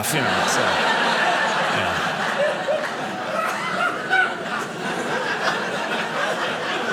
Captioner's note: audience laughing